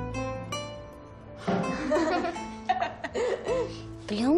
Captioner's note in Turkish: Gülüşüyorlar